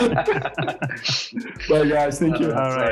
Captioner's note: all laughing